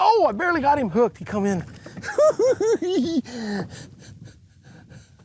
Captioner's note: laughing